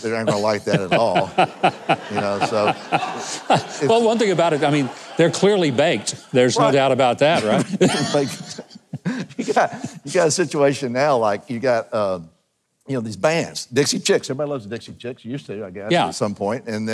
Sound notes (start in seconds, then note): 1.2 audience laughing; 7.3 laughs